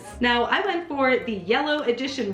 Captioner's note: none